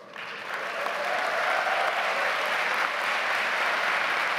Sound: audience applauds

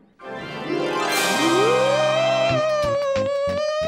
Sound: spectral wailing

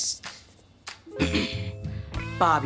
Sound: clearing throat

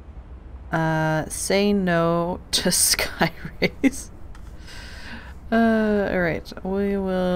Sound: laughs

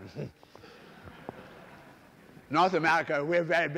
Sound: laughter

